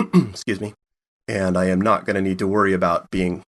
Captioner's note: clears throat